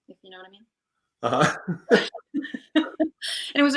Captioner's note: laughs